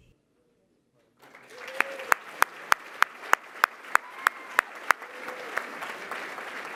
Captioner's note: applause